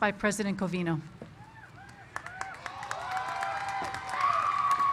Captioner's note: cheers and applause